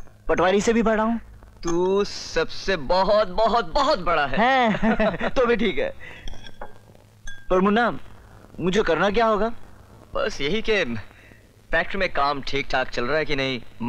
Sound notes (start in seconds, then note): 3.4 laughs